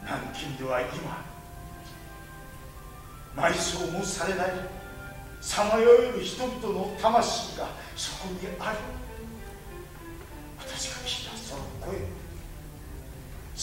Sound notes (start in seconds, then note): none